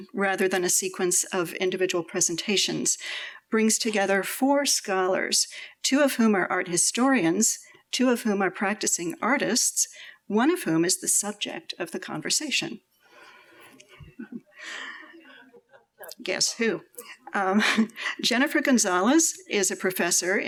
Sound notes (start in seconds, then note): 16.1 laughs